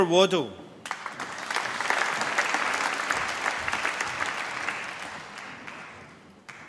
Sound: applause

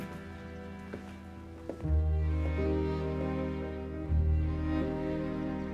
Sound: footsteps

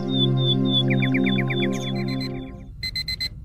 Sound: alarm Clock Buzzing

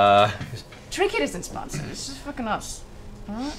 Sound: whispering

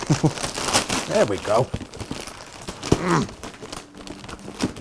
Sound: chuckles; grunt

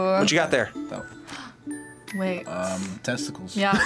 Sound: gasps

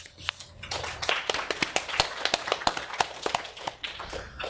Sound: audience applauds

